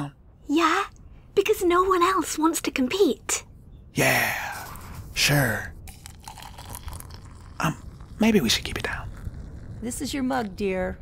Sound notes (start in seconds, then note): 0.6 whisper; 4.4 whisper; 5.8 coffee pouring; 7.9 whisper